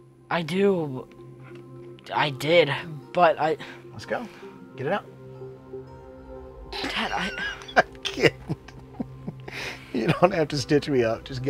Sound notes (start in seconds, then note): 6.8 laughing